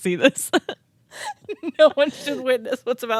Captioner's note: both laughing